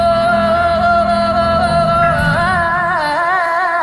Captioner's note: humming